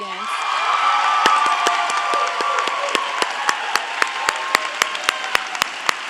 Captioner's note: audience cheering; audience applauding